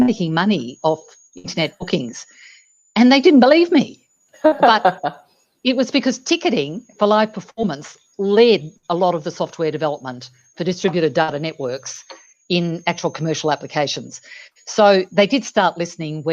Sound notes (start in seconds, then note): 4.4 chuckles